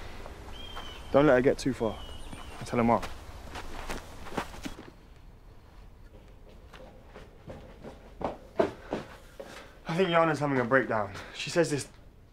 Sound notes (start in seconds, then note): 7.0 footsteps approaching